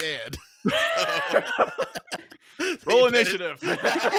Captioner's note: laughs